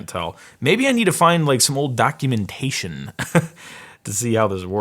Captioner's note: laughs